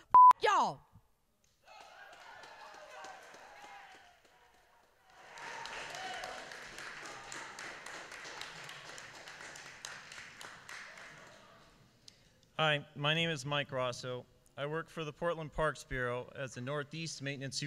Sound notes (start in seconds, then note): 1.6 applause